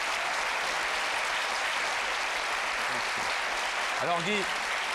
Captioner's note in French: applaudissements